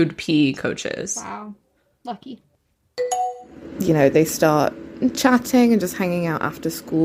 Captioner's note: bingbong